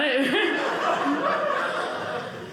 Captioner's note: audience laughing